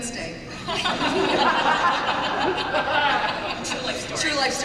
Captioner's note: laughter